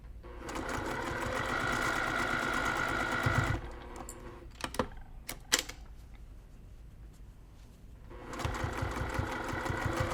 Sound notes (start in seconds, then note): 0.5 sewing machine clunking